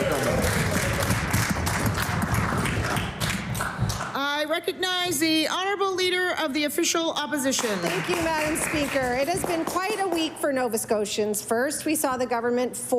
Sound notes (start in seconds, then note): 3.6 applause